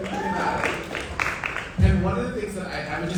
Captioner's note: audience applauding